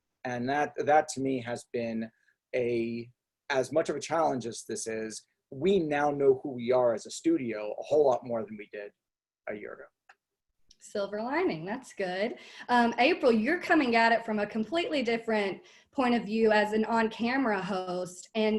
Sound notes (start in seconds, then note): none